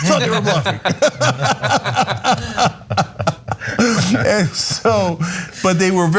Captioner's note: laugh